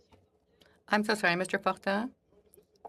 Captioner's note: speaking French